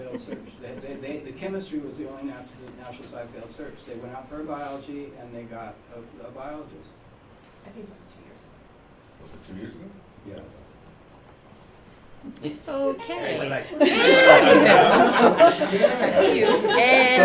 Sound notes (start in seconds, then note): 13.7 laughter; 14.3 background Conversation